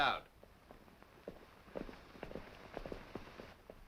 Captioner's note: hooves clopping